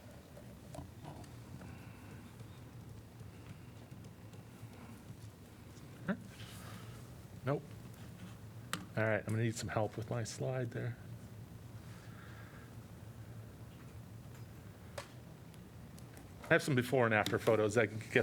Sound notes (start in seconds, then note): 3.7 laughter